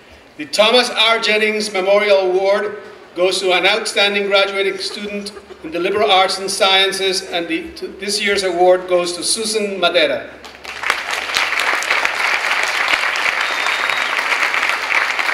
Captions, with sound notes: The Thomas R. Jennings Memorial Award goes to an outstanding graduating student in the Liberal Arts and Sciences and this year's award goes to Susan Madeira. (clapping)